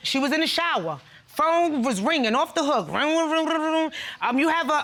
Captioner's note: mimics phone ringing